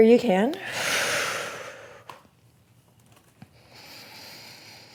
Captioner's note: exhales